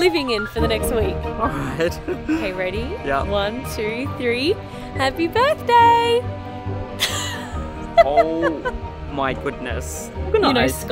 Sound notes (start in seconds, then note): 0.0 giggling; 7.0 laughing